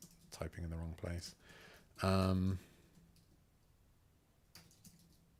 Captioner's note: silence